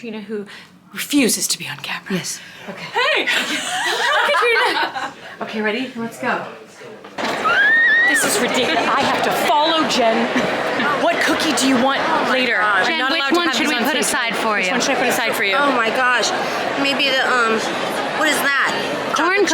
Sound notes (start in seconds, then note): 4.5 person laughing; 7.7 person yelling